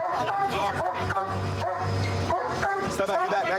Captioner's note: barking